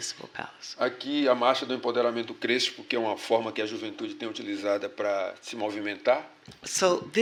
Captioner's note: speaking portuguese